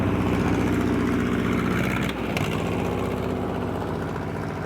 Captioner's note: engine revving